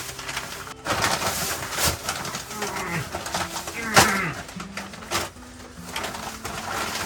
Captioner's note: laughs